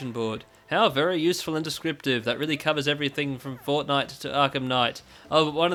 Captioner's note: sarcastically